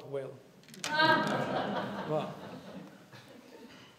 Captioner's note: laughter